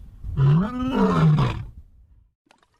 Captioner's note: howls